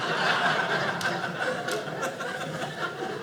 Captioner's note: audience laughing